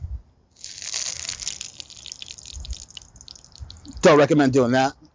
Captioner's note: oil hissing